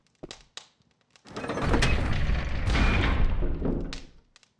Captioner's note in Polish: odgłos obracanego kołowrota oraz podnoszenia kraty